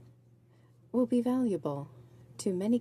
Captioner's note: speaking in french